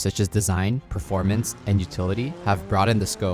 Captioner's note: vehicle revving